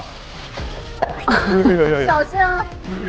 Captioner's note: sizzle